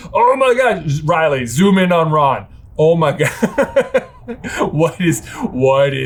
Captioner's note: laughing